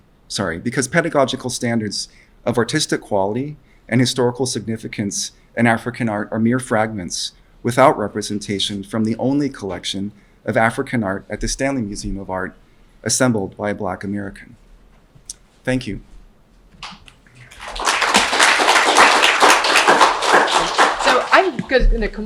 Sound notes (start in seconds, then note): 17.3 applause from audience